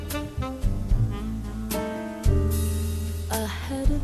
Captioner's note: none